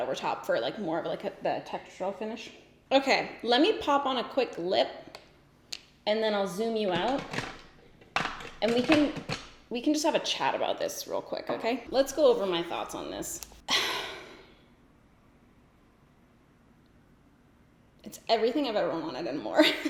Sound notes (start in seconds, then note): 13.7 sighs